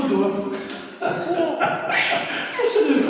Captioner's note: laughing